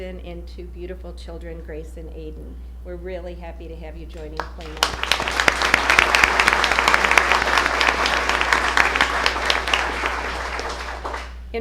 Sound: applause

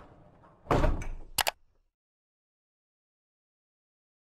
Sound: thud

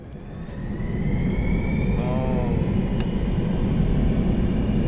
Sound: engine accelerating

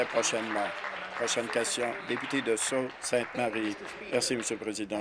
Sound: applause

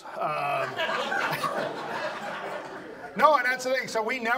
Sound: audience laughs

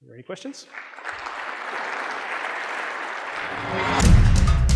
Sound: audience clapping

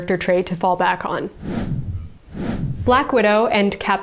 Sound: air whooshes

